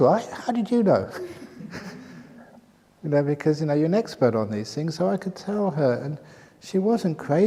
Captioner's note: laughs